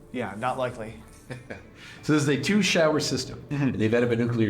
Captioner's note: chuckles